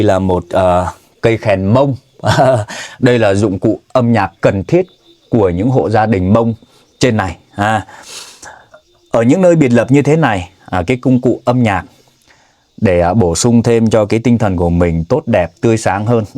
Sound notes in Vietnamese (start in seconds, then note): 7.8 khịt mũi